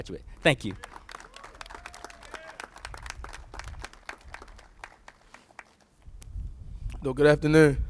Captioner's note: applauses